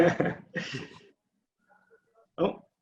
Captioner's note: laughing